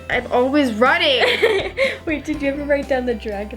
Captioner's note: laughs